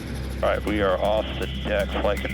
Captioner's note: helicopter blades pulsate